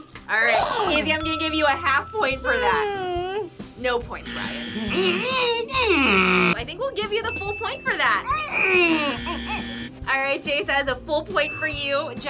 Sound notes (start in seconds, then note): 4.2 whines; 4.3 grunts angrily; 9.2 grunts